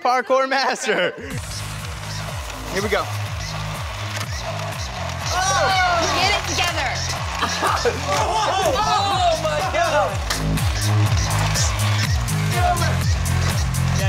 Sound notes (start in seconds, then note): 4.0 wheels whirring; 7.6 laughs; 10.5 deep electronic music